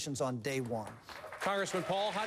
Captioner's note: applause